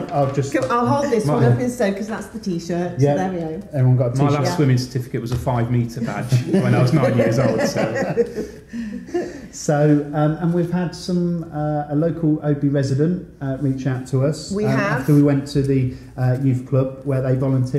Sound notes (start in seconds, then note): 7.7 light laughter